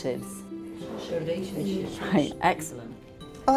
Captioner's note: group chattering